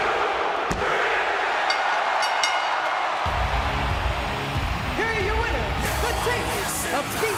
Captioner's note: bell ringing